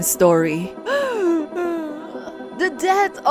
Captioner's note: sobs